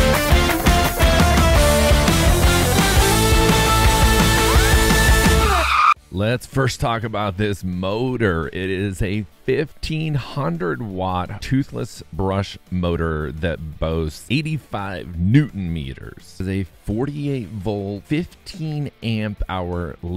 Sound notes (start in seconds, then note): 4.3 tires screeching